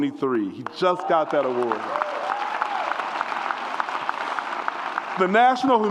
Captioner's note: audience applauds and cheers